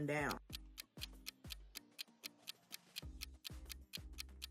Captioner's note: timer ticking